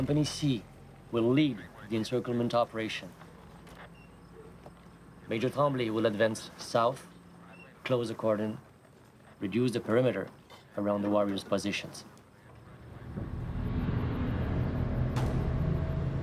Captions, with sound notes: Major Tremblay will advance south, close the cordon, reduce the perimeter around the warriors' positions. (tanks rumbling) (ominous music)